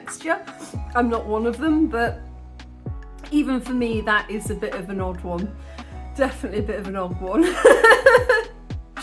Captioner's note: laughing